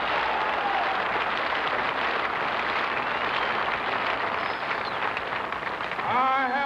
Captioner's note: cheering and applause